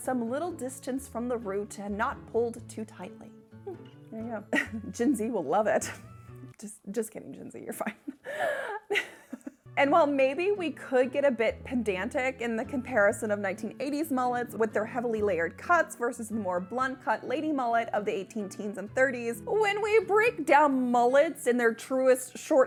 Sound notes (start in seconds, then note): 7.9 laughs